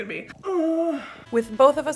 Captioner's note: groan